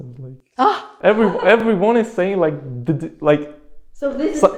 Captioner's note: gigles